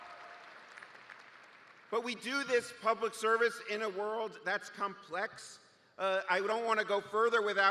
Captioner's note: cheers and applause